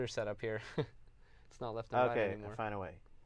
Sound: laughs

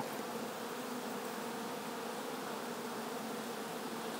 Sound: bees buzz

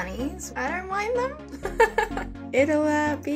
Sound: laughs

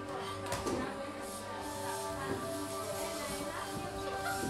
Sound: arrangements, chatting

